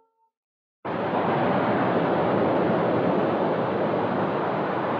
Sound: water Waves Sound

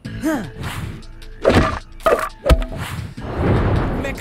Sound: wood clattering

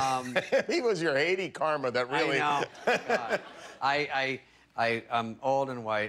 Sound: laughter

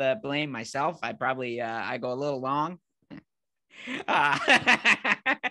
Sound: laughing

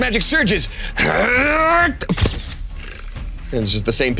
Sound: Krungdar groans

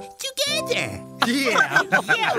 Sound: giggling

